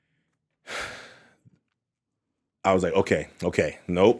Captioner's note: sighs